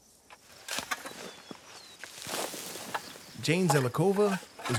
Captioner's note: shovel scraping into dirt